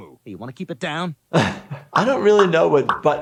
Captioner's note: laughing